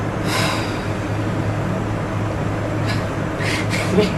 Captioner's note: sighs; laughing